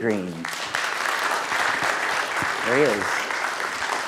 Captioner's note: class applauding